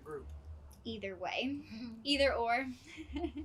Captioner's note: laughs